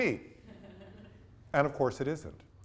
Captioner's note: students laugh